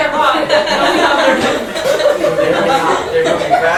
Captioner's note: laughter